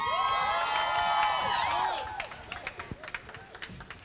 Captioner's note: crowd cheers